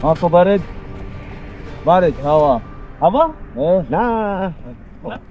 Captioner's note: wind